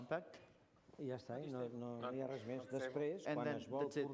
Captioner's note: non-english speech